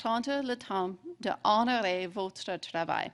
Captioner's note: speaking French